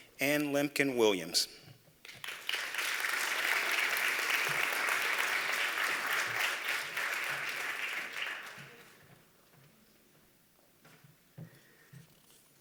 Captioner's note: applause